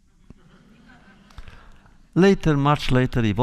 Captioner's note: laughter